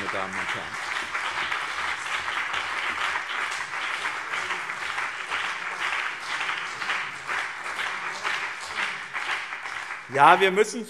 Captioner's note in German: Beifall BÜNDNIS 90/DIE GRÜNEN und CDU